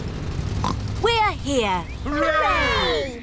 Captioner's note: oinks